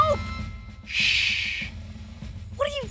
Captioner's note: shushing